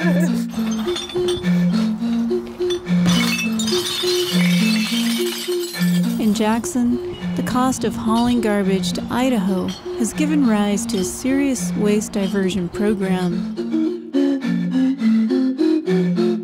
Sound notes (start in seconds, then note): 3.9 clattering